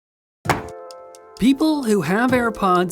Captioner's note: box slams